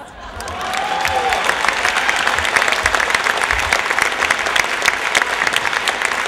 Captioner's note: applause